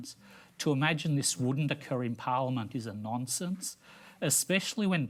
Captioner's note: none